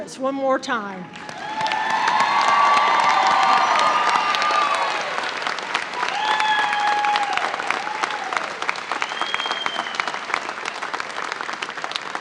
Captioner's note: applause